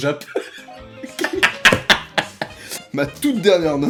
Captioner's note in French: rire